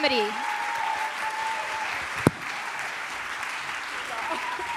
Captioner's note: applause